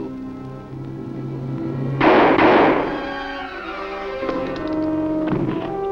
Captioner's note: gunshot firing